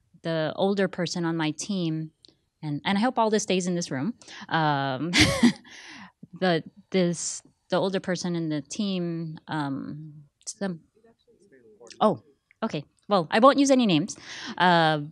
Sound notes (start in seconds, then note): 5.1 laughing; 10.4 man murmuring